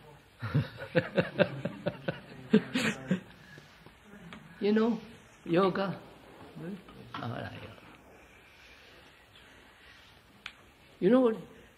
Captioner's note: laughs